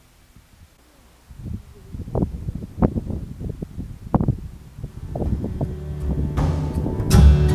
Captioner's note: wind